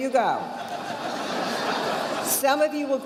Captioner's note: audience laughing